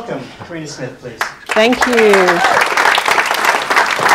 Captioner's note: audience clapping; audience clapping loudly